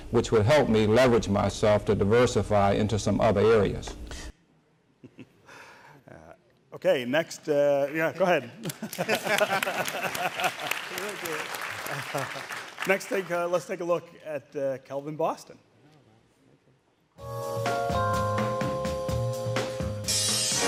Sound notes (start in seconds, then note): 5.1 chuckling; 8.6 audience applauding; 17.2 upbeat music